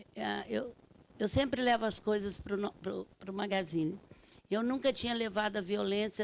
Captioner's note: speaking Portuguese